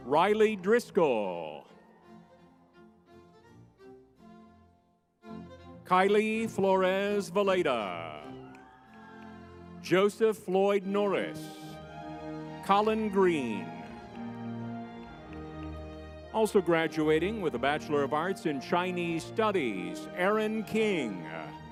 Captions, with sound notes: Rylie Driscoll. (lively music) Keily Flores Villeda. (crowd cheering) Joseph Floyd-Norris, Colin Green. Also graduating with a Bachelor of Arts in Chinese Studies, Erin King.